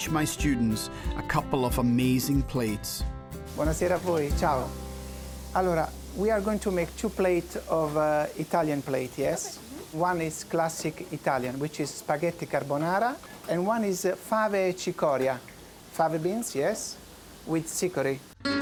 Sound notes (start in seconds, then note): 3.7 speaking Italian